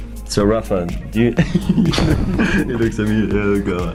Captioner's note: laughing